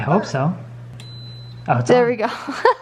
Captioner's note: beeps